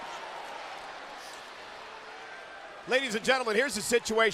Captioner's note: crowd cheering